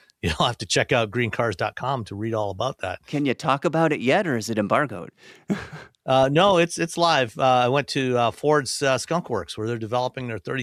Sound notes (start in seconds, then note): 5.4 chuckles